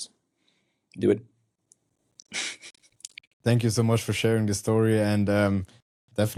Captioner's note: chuckles